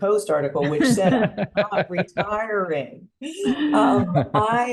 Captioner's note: chuckle